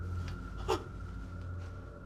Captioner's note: gasping